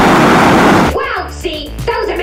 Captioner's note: explosion